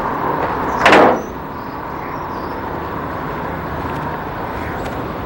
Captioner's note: car hooding slamming